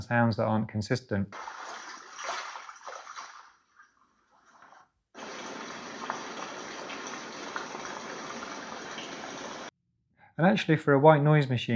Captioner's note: water sound